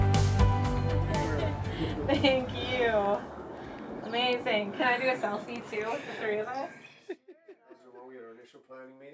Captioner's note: uplifting music; laughing & chatter in the background